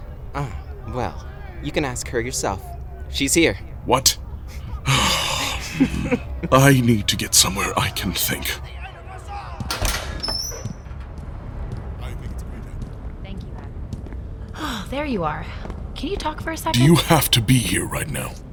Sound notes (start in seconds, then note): 7.1 breathing